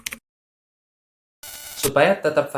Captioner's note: interference sound